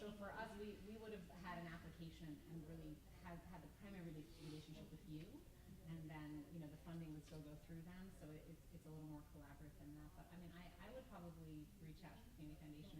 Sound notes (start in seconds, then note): 10.1 stammers